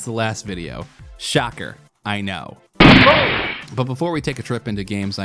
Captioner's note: gunshot